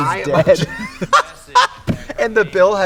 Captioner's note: both laugh